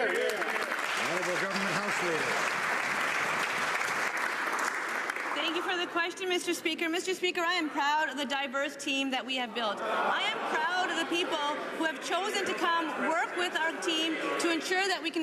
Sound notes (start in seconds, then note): 3.5 some Applause